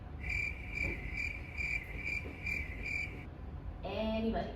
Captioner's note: crickets